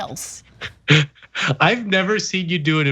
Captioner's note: laugh